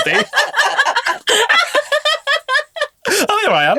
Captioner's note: all laughing